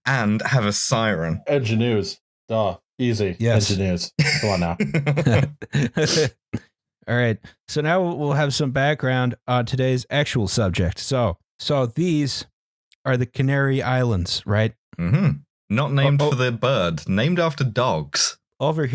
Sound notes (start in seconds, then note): 4.1 laughs; 5.7 laughter